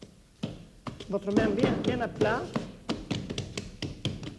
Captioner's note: speaking French